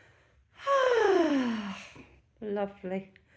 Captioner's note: contented sigh